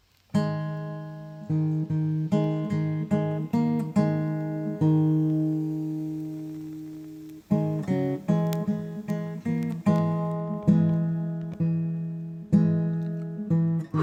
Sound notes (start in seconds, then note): 0.3 solemn acoustic guitar; 9.6 flame flickers